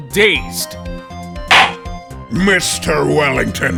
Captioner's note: gavel slams!